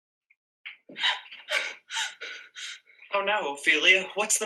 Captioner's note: breathing heavily